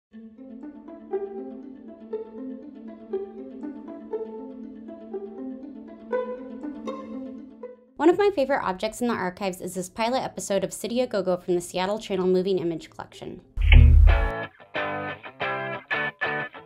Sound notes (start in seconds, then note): 13.6 sound effect - tube TV turning on; 13.6 instrumental music